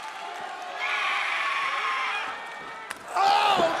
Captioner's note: Asuka screams